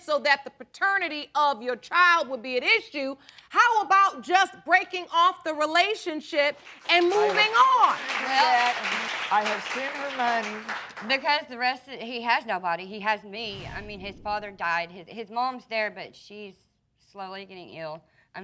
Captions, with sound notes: so that the paternity of your child would be an issue, how about just breaking off the relationship and moving on? (APPLAUSE) I have seen the money. Because the rest... He has nobody. He has me. I mean, his father died. His mom's there, but she's slowly getting ill.